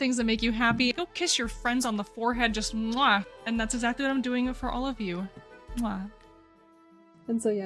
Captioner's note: MWA! kiss sound; mwa